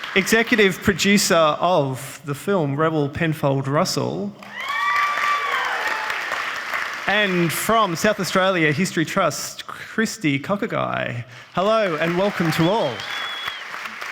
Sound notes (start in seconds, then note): 4.4 audience applauding and cheering